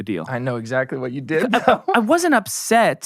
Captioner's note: laughs